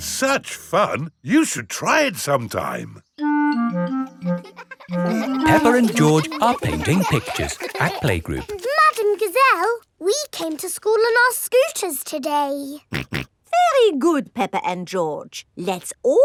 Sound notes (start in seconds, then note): 4.3 children laughing; 13.4 snorts